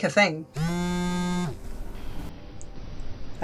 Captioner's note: buzzing